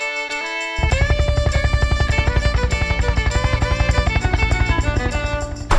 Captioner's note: helicopter blades swirling